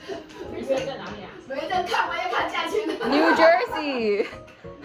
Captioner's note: adults laughing; adults laughing